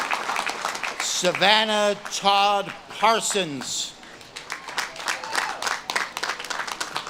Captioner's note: audience claps and cheers